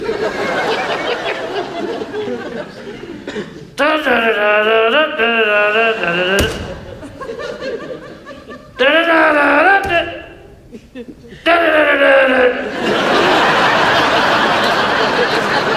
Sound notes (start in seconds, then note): 0.0 trunk shutting; 0.3 audience laughs; 6.3 trunk thudding; 7.5 audience laughs; 12.7 audience laughs